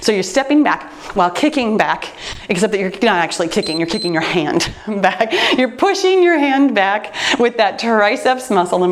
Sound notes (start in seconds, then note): 3.5 timer beeps